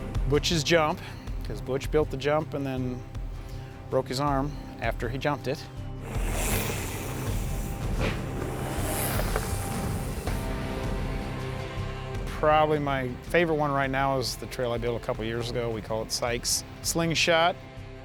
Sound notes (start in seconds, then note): 6.1 wheels whir